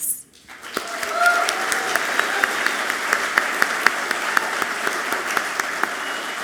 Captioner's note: audience clapping loudly